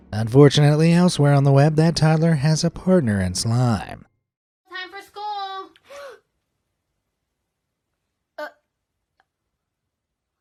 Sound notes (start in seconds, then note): 6.6 gasps